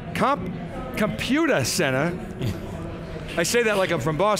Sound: laughs

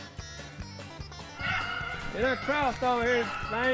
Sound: dogs barking

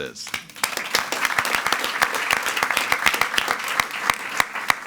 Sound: attendees clapping

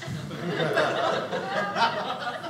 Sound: audience laughing

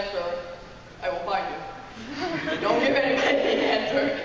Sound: laughing

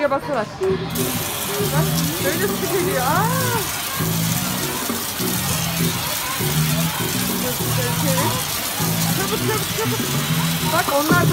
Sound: water sound

